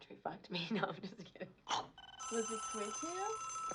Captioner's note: phone rings